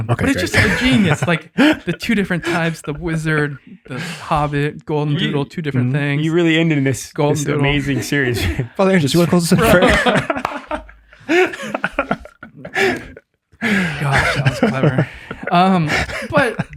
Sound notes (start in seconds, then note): 8.9 group laughs